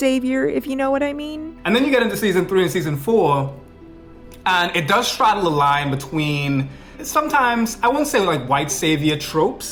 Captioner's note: foreign